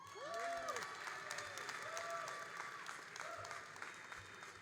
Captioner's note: all applauding and cheering